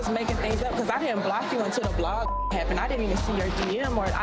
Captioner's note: beep